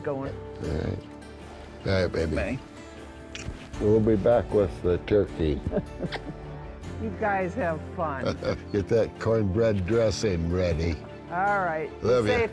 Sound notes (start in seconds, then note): 4.7 laughs